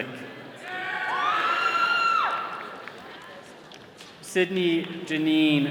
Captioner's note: all cheering